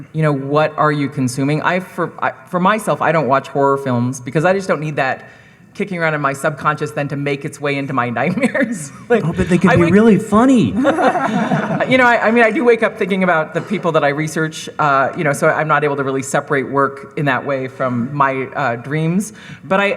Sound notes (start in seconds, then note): 8.2 laughs; 10.7 group laughing